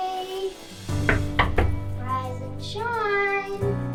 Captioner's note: hand knocking on door